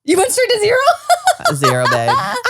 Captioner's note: laughs